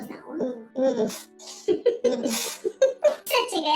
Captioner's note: laughs